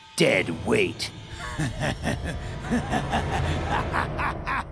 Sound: laughing

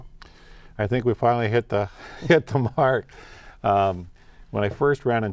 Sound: lightly laughing

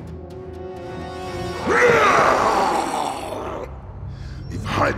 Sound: roars

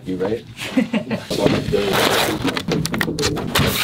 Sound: laughs

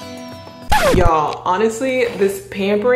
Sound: record skips

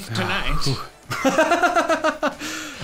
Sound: laughing

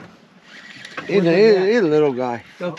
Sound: reel cranking

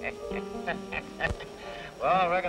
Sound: chuckling

